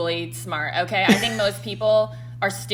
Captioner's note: laughs